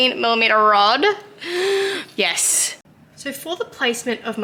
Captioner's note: deep inhale